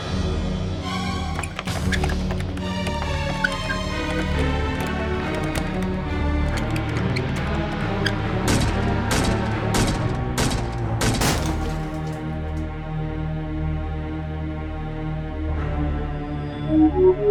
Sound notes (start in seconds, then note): 1.9 door knob jittering; 8.9 door slamming